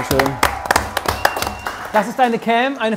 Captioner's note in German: Jubel, Pfiffe